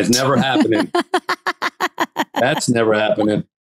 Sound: Candace laughing

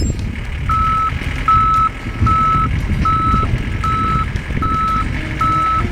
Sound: engine revving; loader safety backup beeps

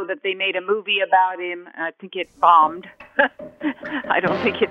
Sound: laughing

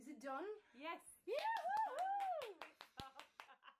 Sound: applause

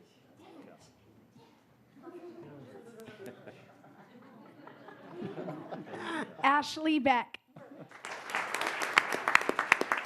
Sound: applause

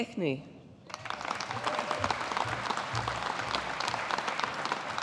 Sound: audience applauding

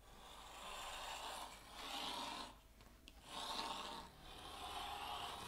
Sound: paper scratching; paper scratching

